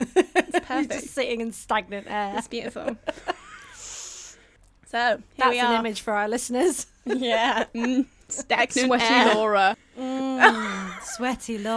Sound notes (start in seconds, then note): 7.0 group laughter; 10.4 group laughter